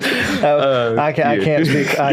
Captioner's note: laughing